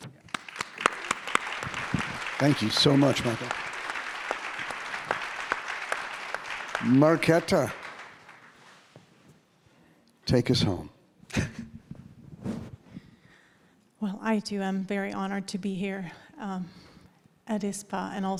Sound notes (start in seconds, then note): 0.7 audience applauding